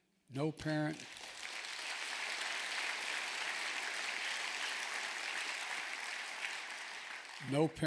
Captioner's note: applause